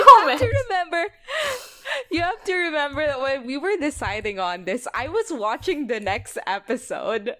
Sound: laughing

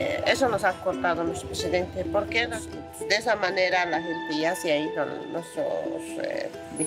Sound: speaking in foreign language continues

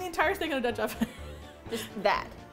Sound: laughs

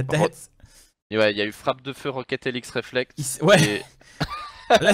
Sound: laughs

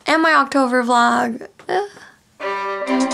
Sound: weird sigh

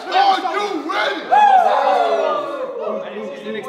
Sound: group cheering

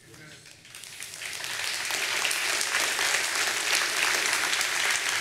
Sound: audience applauding

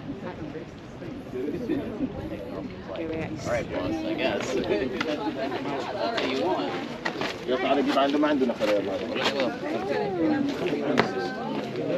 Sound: crowd chattering

